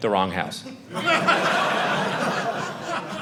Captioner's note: audience laughing